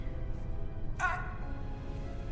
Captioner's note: dramatic music; grunting